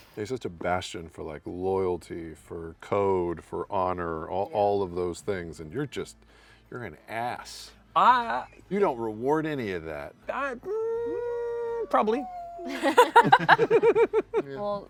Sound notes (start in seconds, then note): 11.2 unsure groan; 12.6 laughter